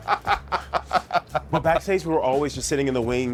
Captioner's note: laughing